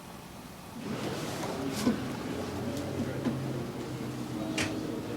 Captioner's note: patrons chattering